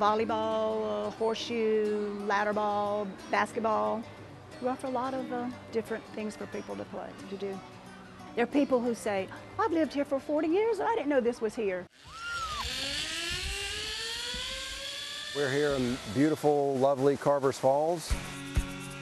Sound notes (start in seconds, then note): 11.9 zipline buzzing